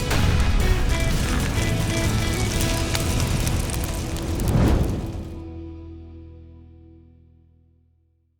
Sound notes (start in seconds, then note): 0.1 heavy hammer thud and rock cracking; 1.7 pounding battle drums; 4.4 whooosh